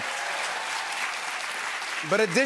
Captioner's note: applause